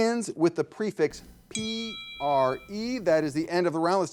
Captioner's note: bell rings